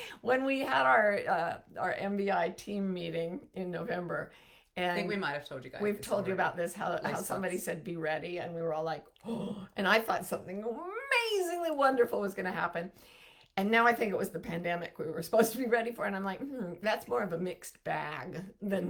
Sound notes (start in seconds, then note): 0.0 laughs; 9.4 gasps